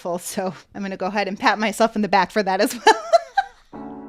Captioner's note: laughter